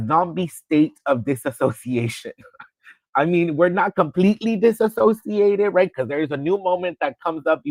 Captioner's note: laughter